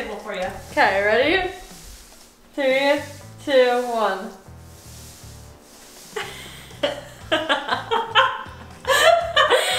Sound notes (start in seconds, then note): 6.2 laughing